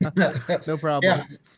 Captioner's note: laughter